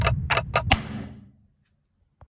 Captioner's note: the sound of forcefully beat the table